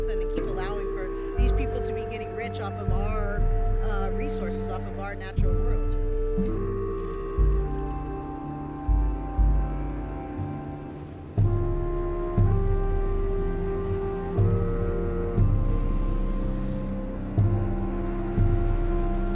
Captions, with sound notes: and then keep allowing for these people to be getting rich off of our resources, off of our natural world, ya know? (boat engine revving) (suspenseful music)